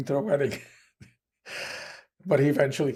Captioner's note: laughing